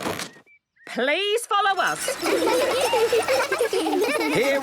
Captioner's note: laughter